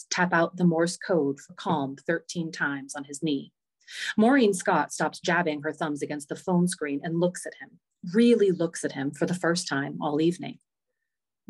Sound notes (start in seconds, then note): none